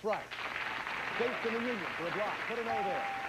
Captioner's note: audience applauding